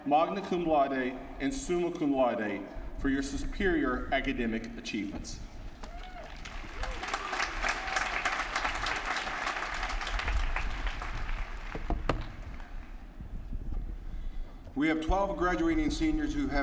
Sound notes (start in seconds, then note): 6.0 applause